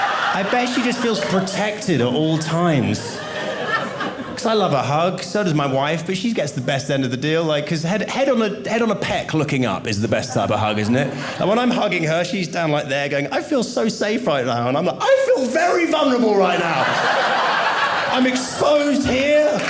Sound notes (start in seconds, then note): 0.0 audience laughing; 16.4 audience laughing